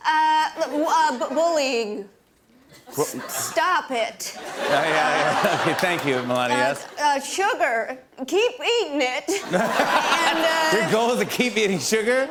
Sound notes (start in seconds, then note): 4.3 laughter; 9.3 laughter